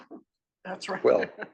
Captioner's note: laugh